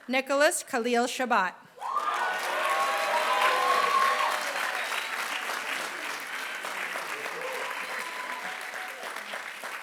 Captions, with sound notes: Nicholas Khalil Chebat. [APPLAUSE]